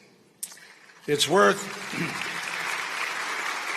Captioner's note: applause